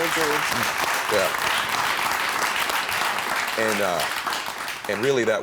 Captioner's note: audience applauds